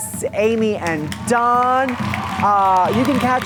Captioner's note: audience applauding